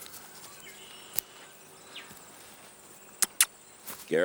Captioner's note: leaves rustling; lips smack